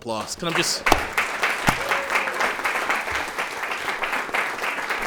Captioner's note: audience applauding